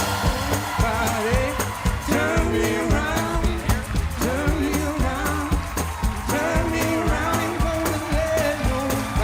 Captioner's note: applause